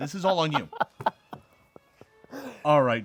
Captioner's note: laughs